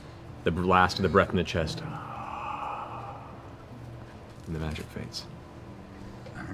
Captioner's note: exhales